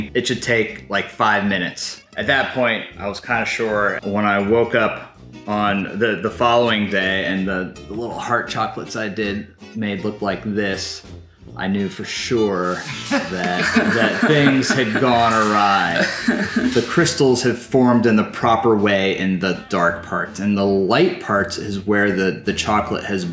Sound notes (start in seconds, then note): 15.9 laughing